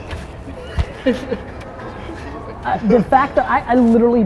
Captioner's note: group laughter